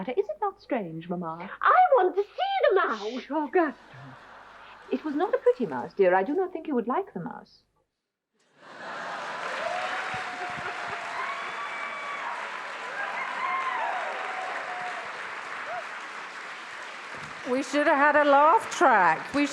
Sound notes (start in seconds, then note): 8.6 attendees laughs; 10.5 attendees applauding; 10.5 attendees cheering